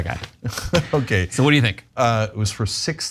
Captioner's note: laugh